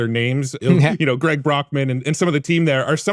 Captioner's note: chuckling